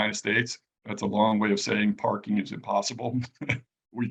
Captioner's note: laughs